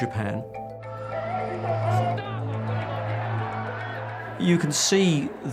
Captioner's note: protestors shouting